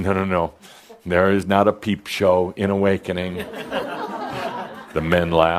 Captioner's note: some chuckles